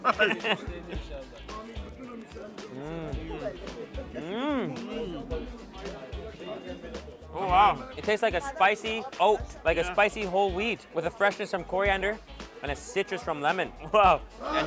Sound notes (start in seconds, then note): 0.0 laughs; 2.7 delighted hum